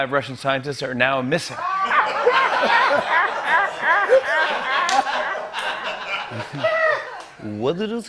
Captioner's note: laughter